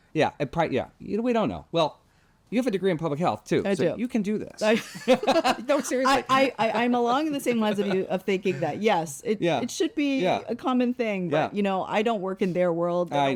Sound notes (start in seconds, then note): 4.7 both laughs